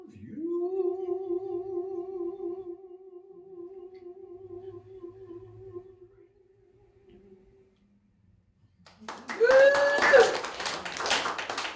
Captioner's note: applause